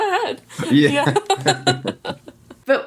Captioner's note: laughing